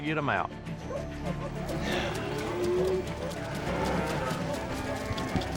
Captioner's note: mooing